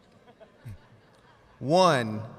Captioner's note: audience laughs